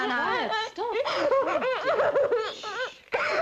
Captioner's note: indistinct chattering